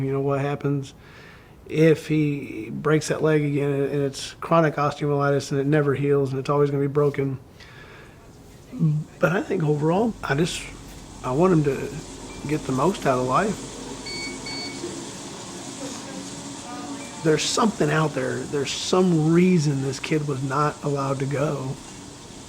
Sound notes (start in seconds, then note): 13.9 beeping